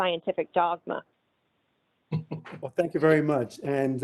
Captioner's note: laughs